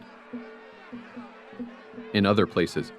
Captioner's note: crowd yelling